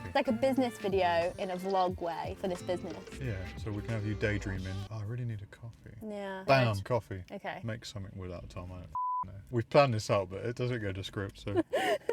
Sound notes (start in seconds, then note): 8.9 beep; 11.5 laughing